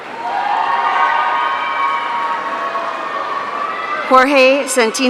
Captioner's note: audience cheering